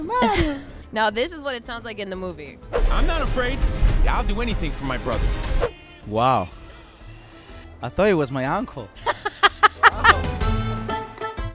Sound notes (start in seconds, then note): 9.0 laughing; 10.4 italian music